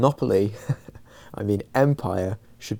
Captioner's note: chuckles